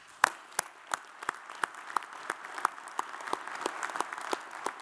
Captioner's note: audience applauds